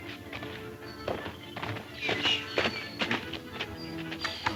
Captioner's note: horse hoof beats